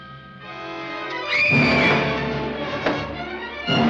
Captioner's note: scream